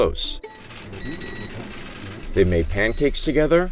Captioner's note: beeping sound; cameras clicking